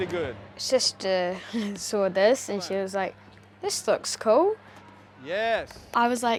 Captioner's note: giggles